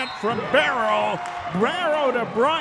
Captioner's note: referee whistling